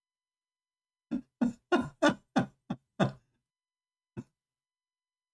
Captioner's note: Ketawa